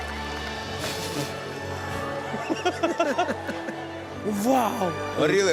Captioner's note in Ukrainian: сміх